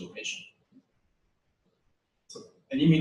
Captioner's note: pause